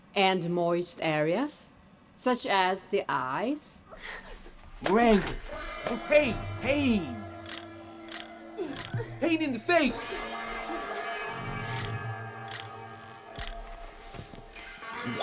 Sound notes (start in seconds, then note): 5.3 women groaning; 7.4 shutter clicking; 11.6 shutter clicking